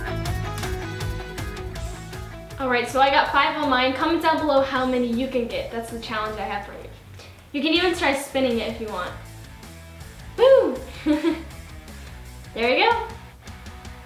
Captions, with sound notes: All right so I got five on mine. Comment down below how many you can get. That's the challenge I have for you. You can even try spinning it if you want. Woo! (laughing) There you go.